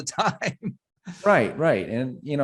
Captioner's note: laughs